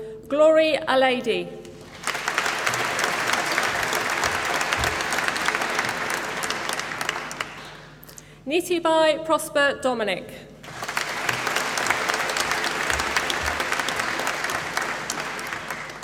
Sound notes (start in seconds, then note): 1.7 applause; 10.6 applause